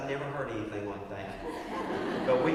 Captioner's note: laugh